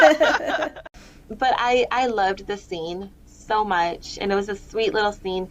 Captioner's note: laughter